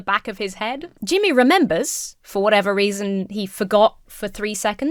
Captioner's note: none